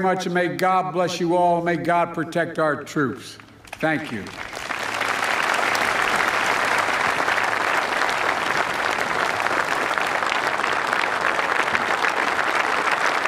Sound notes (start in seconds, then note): 8.3 applause